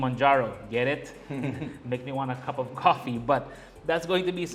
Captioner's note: chuckles